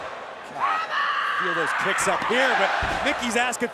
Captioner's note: Mickie yelling